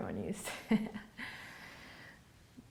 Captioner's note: laughing